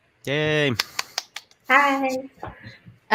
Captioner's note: cheers